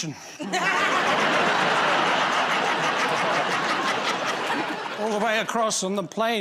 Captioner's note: laughter